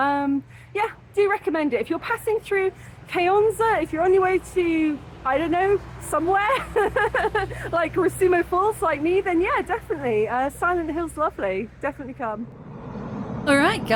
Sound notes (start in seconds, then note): 6.6 laughing